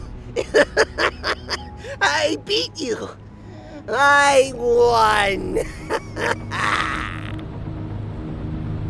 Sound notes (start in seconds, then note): 0.3 laughing; 5.4 laugh